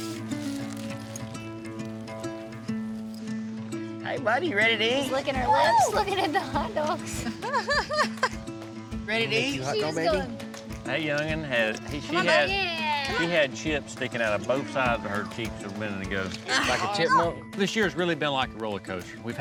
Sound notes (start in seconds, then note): 5.4 laughs